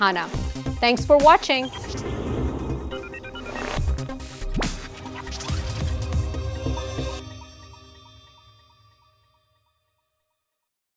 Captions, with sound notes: Thanks for watching. (whirring gears) (upbeat electronic music)